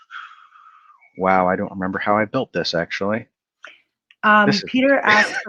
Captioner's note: laughs